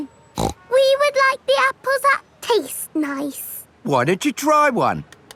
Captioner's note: snorts